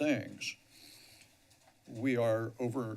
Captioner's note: inhales